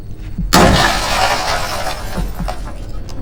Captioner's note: crash!